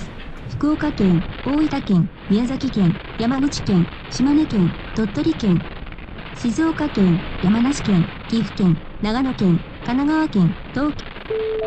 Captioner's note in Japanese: ラジオ